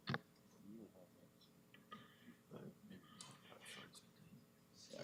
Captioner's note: presenters whispering